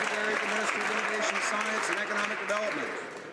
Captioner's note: some Applause